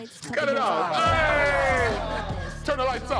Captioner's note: group cheering